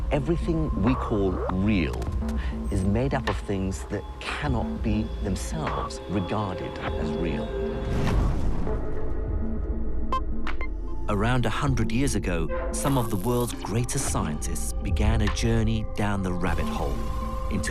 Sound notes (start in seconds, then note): 11.3 voiceover